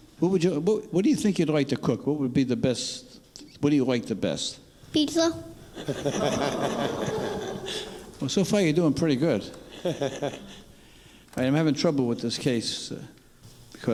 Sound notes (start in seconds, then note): 5.7 father laughing; 9.6 father laughing